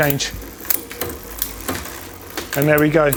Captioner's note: moving bicycle chain